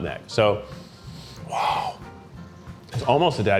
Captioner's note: sniffs